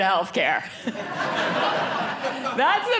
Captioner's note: audience laughing